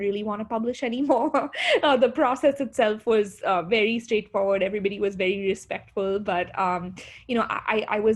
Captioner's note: laughter